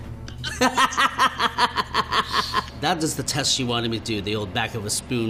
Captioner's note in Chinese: 笑聲